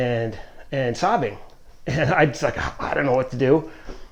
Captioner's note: scoffing